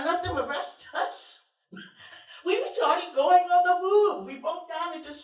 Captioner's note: laughter